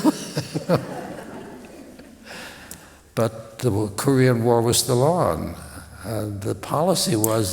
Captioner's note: laughter